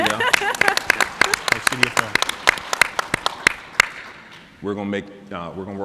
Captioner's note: laughing; everyone clapping